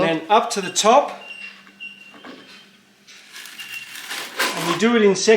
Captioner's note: scraping sound